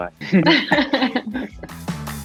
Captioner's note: Amita laughs; upbeat music